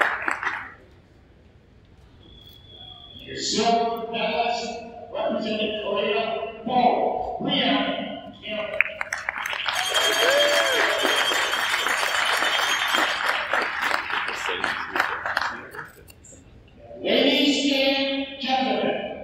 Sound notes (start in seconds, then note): 0.0 applause from crowd; 8.7 applause from crowd